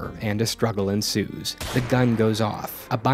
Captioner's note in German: schuss